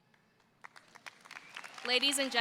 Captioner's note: audience applauds